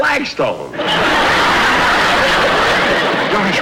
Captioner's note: audience Laughter